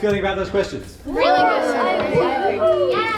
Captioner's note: all whoop